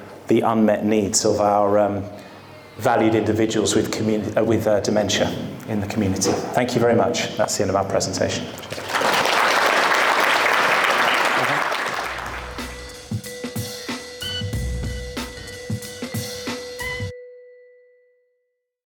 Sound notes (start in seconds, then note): 8.6 audience clapping; 13.2 upbeat peppy music playing